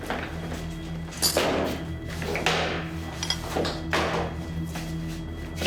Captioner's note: loud clatter